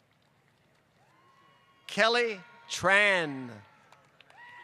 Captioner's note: applause